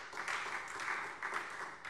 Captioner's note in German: Beifall SPD